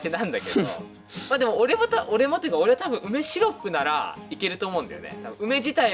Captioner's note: laughs